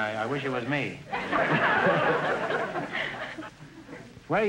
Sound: audience laughter

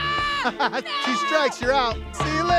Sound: screams

